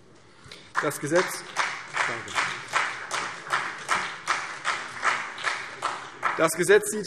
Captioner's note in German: Vereinzelter Beifall CDU und BÜNDNIS 90/DIE GRÜNEN